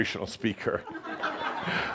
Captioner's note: Adamus chuckles; more chuckles